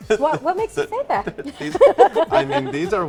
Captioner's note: laughter